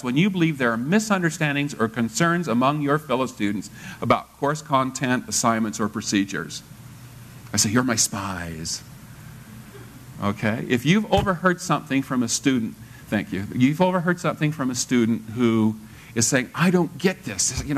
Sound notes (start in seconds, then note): 9.8 laugh